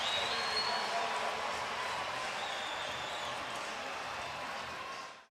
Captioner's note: pa announcement